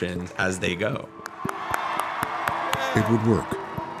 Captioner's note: crowd cheering and applauding